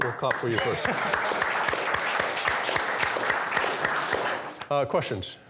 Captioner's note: applause